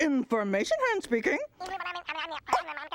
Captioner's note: high voice babbling